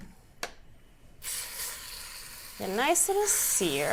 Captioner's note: pot sizzles